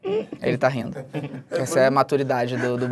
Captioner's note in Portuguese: risadas